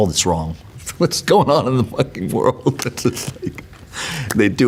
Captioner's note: laughs